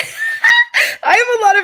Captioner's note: laughing